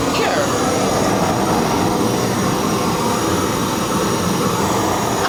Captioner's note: blow torch hissing